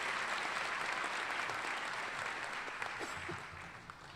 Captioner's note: applause